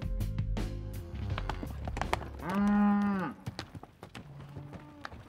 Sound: cows mooing

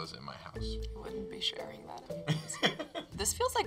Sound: Nick laughs

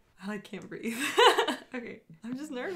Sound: nervous laugh

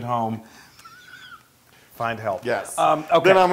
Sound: laugh

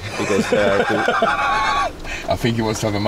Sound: hearty laughing

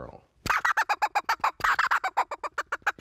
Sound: bird call chirping

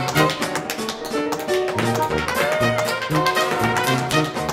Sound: tap dancing

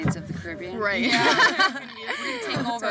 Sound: all chuckling

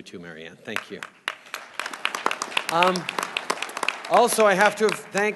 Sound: applause

